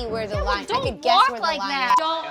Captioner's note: beep